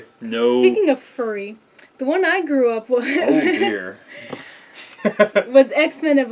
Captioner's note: laugh